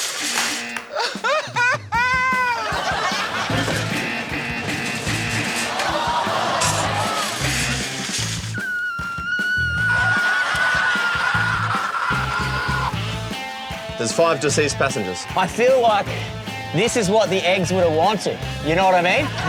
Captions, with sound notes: (BUZZER SOUNDS TWICE) (FEIGNS SOBBING) (BUZZER SOUNDS MULTIPLE TIMES) (BUZZER SOUNDS) (SQUEALS MOURNFULLY) There's five deceased passengers. I feel like this is what the eggs would have wanted. You know what I mean?